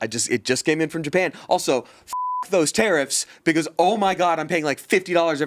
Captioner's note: beep